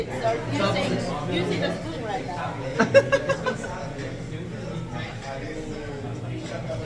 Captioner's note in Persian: خنده